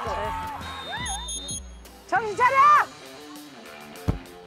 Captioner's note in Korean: 호루라기 소리